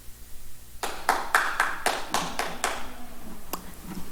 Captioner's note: applause